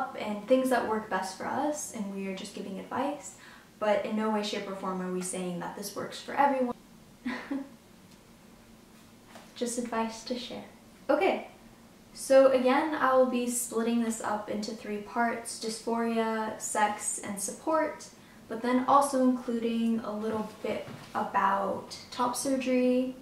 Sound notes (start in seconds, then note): 7.3 laughs